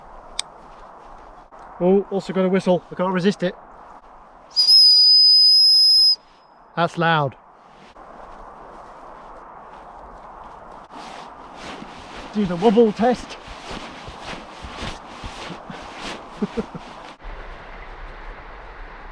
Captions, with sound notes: (buckle clicking) Oh, we've also gotta whistle. I can't resist it. (whistle blowing) That's loud. Do the wobble test. (back pack swishing) (chuckling)